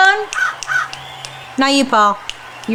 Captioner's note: cawing